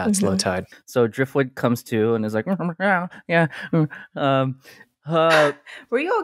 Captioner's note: making cat noises